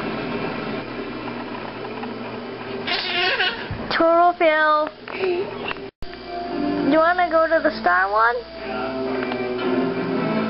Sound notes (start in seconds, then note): 5.2 laughs like a baby